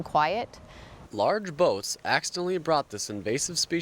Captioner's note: voiceover